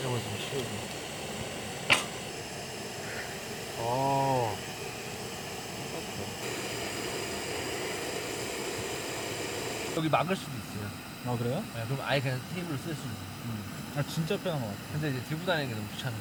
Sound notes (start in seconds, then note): 2.6 fiiiire